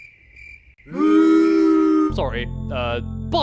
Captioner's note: crickets; booing